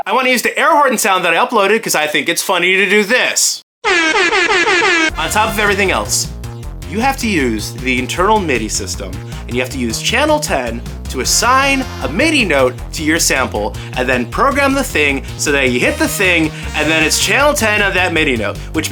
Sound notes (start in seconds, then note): 3.8 Rap Airhorn effect